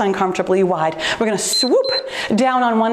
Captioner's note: timer beeps